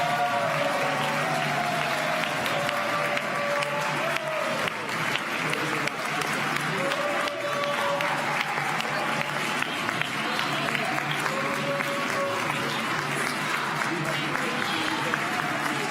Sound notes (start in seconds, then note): 4.1 applause